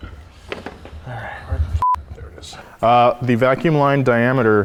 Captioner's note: beep